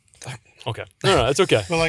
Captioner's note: sneezes